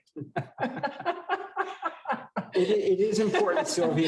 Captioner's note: laughter